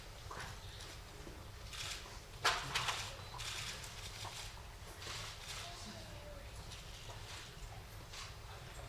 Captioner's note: applause